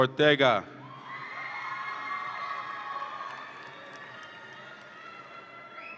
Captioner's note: audience applauds and cheers